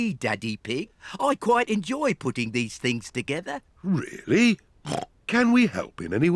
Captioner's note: snorts